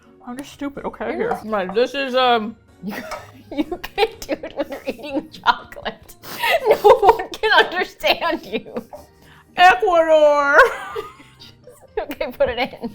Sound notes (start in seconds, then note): 2.8 laughs; 10.6 laughs; 11.9 both laugh